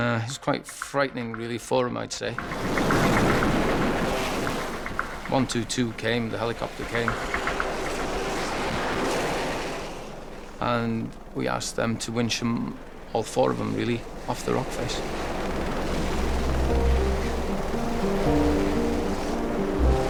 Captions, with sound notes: It's quite frightening really for him, I'd say. (water whooshing) (boat droning) 122 came, the helicopter came. (wind whooshing) (water whooshing) And we asked them to winch all four of them, really, off the rock face. (waves crashing) (water whooshing) (pensive music)